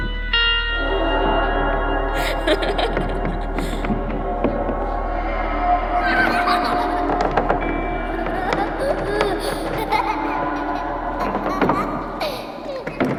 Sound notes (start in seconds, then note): 0.1 dark music; 8.1 laughter